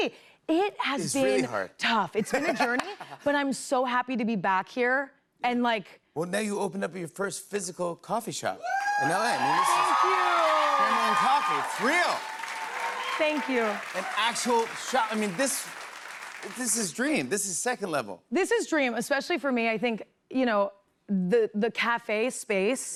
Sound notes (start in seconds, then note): 9.6 cheers and applause